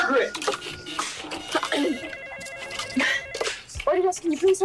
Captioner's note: telephone ringing